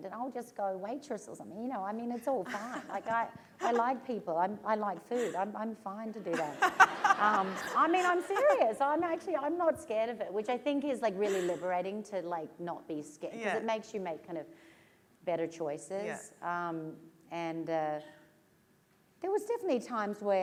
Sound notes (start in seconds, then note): 2.4 laughter; 6.2 laughter